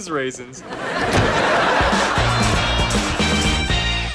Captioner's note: laughs